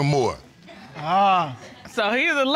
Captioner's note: audience chuckles